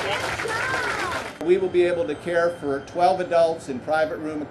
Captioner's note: applause